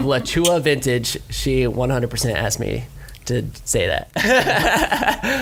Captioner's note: laughs